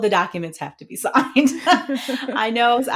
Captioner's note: both laughing